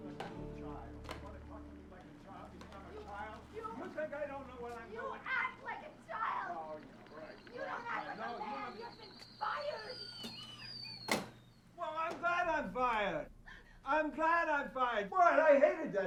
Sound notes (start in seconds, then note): 7.1 screaming; 10.9 whistles